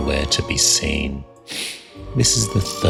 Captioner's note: sniffs